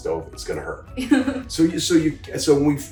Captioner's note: laughs